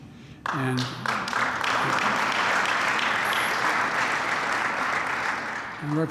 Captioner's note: applause